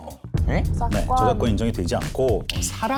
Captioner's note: big trouble sound effect